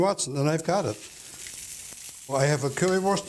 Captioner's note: sizzling